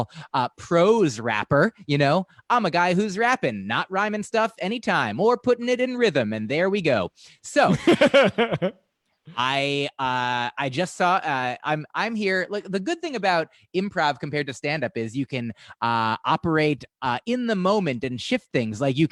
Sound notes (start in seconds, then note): 7.7 laughter